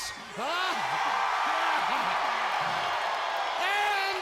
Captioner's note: audience cheering